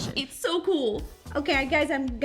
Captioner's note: normal voice